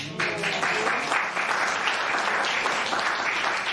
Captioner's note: applause